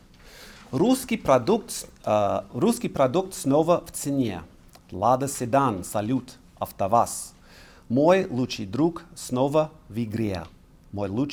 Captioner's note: speaking russian